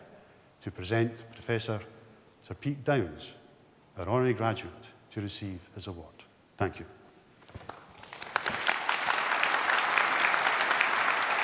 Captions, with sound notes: to present Professor Sir Peter Downes an Honorary graduand to receive this award. Thank you. (APPLAUSE)